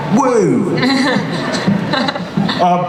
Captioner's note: Bella laughs